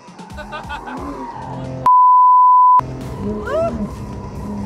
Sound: beeps

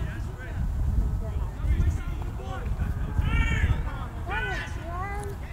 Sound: players talking and yelling

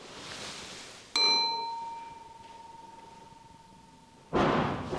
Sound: clang; 'Bang' from the first floor

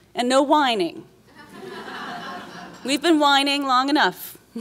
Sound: laughs

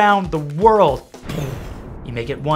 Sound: imitates explosion

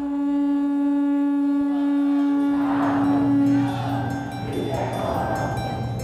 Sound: conch shell rings out, crowds chant

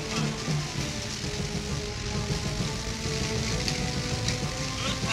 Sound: propellors whirring

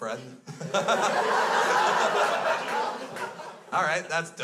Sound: crowd laughs

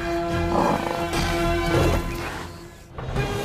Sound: snorting

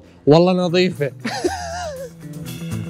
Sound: laughing

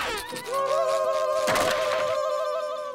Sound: yelling

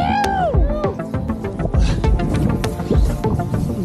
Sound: group screaming

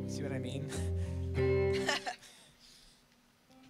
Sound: laughs

